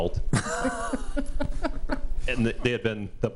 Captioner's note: trustees laughing